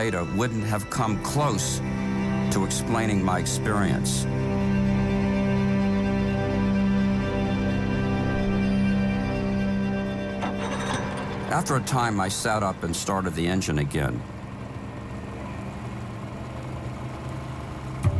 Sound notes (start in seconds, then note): 5.6 music echoes and fades; 10.0 boat engine revving; 14.9 boat engine whirring